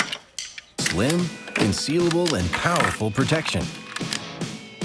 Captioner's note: voiceover